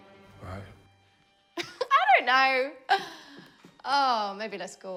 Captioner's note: laughs